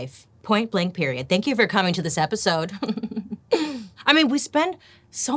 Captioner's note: giggles